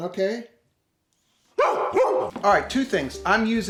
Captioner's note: barking